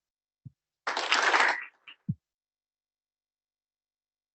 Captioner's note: applause